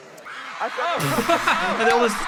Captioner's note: audience screaming; both chuckling